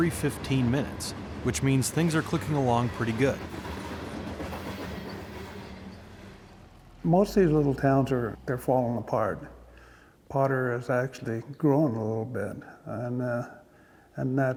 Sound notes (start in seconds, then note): 5.8 train wheels click clacking